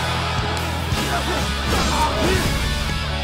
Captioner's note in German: Kampfgeräusche